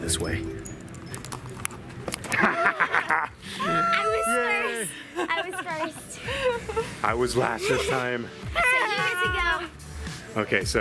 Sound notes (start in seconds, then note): 2.2 people laughing